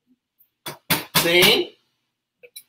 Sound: speaks portuguese

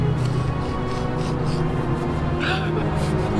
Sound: emma sniffles

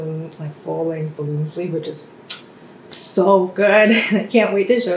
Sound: chef’s kiss sound

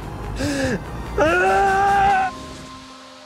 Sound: yelling

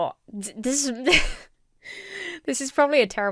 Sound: chuckles

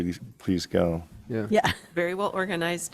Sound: laughs

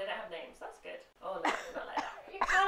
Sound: coughs

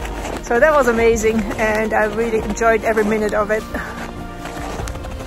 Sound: laughs

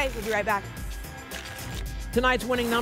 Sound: tickets shuffling

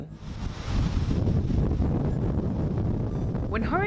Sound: wind gusting

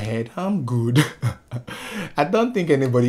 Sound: laughs in Swahili

